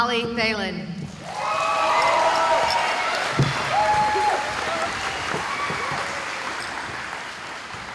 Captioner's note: cheering